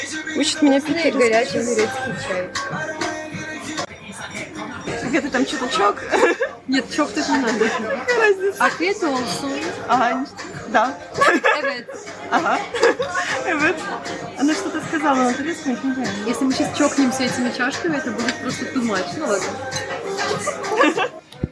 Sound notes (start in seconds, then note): 9.0 speaks something in Turkish; 10.6 speaks Turkish